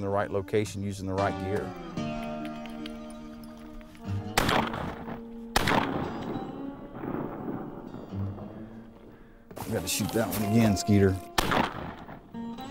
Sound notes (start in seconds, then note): 4.3 gunshots